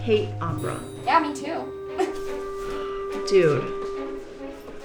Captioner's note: chuckles